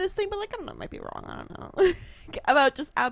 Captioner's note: laughs